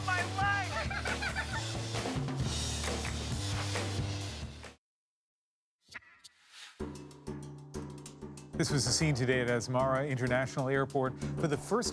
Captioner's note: giggling together